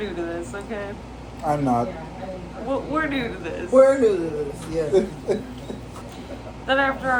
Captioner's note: laugh; chuckles